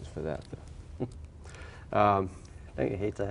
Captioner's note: chuckles